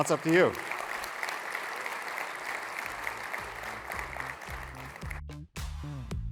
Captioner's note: applause